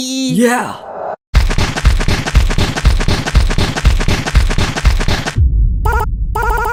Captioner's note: digging noises